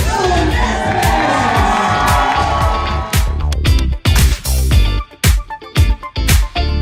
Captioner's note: applause